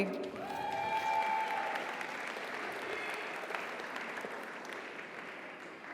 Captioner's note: audience applauds; audience cheers